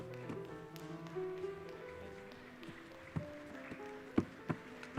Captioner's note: audience applauds